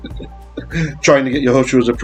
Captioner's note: laughing; Aramaic